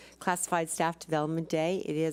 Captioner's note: none